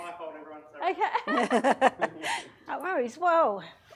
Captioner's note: women laugh